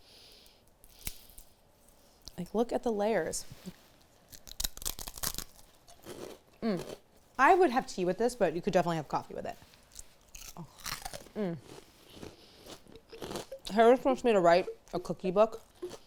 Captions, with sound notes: Like look at the layers. (crunching) I would have tea with this, but you could definitely have coffee with it. Harris wants me to write a cookie book.